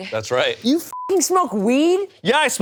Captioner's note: beep